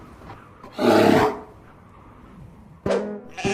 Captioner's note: growls